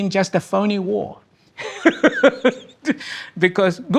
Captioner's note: person laughing